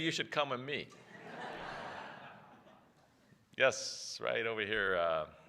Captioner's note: laughter